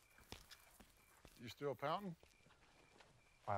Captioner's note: footsteps